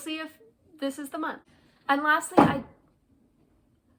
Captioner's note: thunk